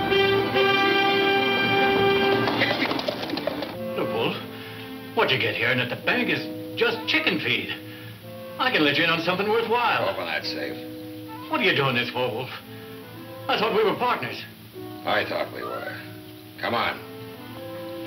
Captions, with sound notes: (shouting) - The Wolf, what'd you get here now, the bank is just chicken feed. I can let ya in on something worthwhile. - Open that safe. - What are you doing this for Wolf? I thought we were partners. - I thought we were. Come on.